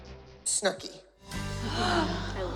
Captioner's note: gasp